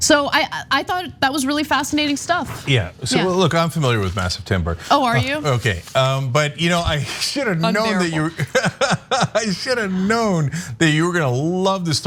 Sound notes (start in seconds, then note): 7.7 laugh